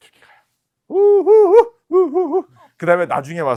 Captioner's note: gasp